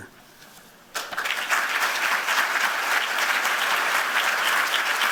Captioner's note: applause